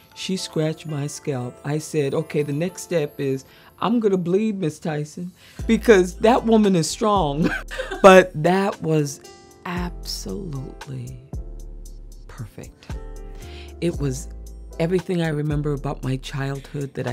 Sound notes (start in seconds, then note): 7.4 chuckling